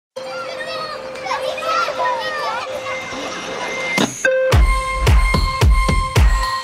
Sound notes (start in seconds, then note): 1.2 children's Laughter